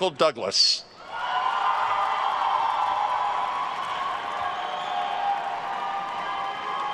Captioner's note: attendees cheering and applauding